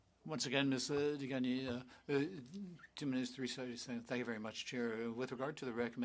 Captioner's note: speaking French